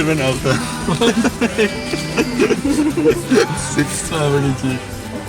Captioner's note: laughing